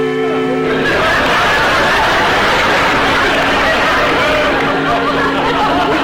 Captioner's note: audience laughter